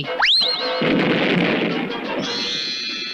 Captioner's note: explosion